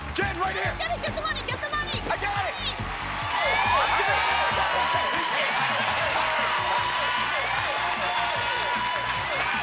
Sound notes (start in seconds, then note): 3.0 sirens wail; 4.2 cheering